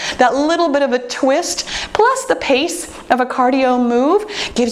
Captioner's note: none